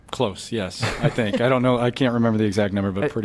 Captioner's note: laughter